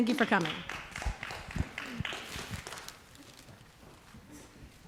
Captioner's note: audience applause